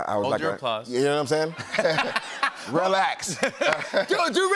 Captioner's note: laughter